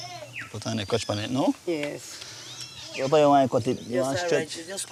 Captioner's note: Spanish spoken audio